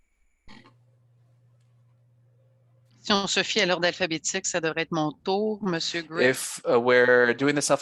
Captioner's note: speaking French